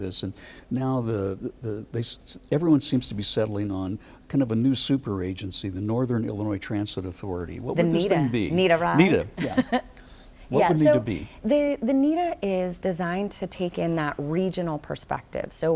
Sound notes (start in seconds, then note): 9.3 laughs